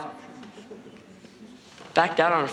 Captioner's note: audience murmuring